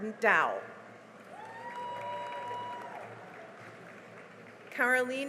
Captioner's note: cheering and applause